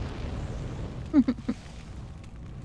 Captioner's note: chuckles